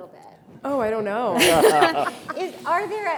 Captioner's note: panelists chuckle